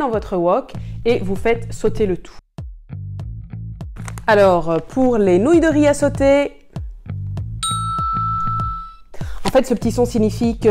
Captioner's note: sound "ding"